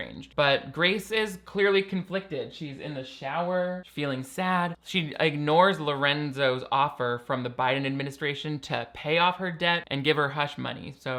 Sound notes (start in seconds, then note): none